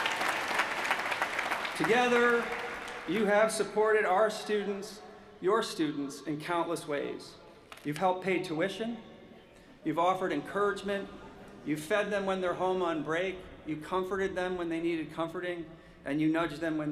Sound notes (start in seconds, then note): 3.4 applause